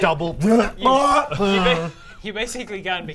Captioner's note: nrggggggh